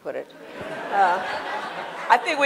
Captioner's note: laughter